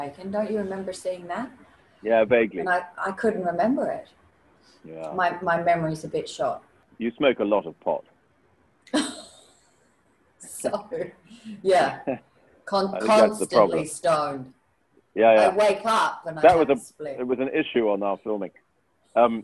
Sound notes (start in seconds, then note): 9.0 laughs